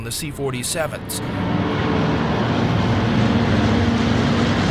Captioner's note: engines roaring